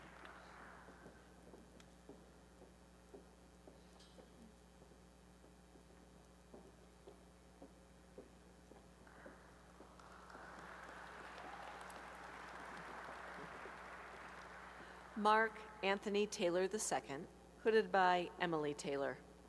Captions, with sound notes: [applause] Mark Anthony Taylor II, hooded by Emily Taylor.